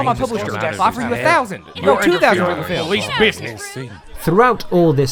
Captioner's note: frantic arguing